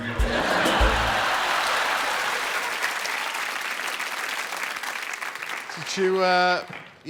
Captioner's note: laughter